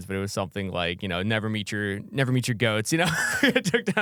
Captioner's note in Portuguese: risos